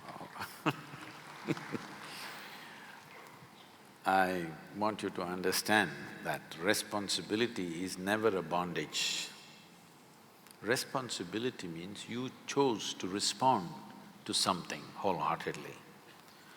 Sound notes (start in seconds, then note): 3.5 laughs